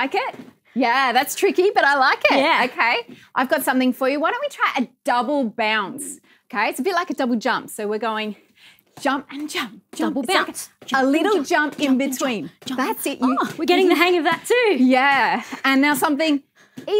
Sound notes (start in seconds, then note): none